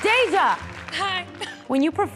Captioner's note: applause; sharp laugh